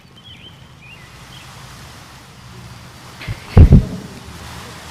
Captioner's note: tarp crinkling